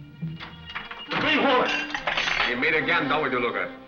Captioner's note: door slams